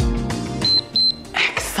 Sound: timer beeps

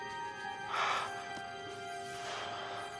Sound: exhales

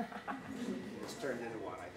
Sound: audience laughing

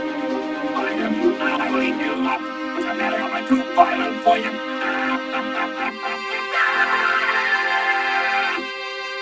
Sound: laughs maniacally; screams as he is thrown

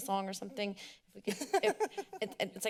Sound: laughs

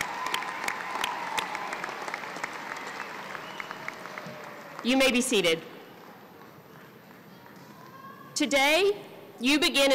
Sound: applause

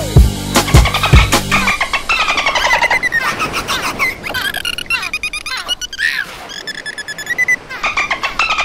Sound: dolphin chirping

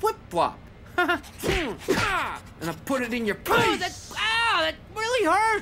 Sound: fighting sounds

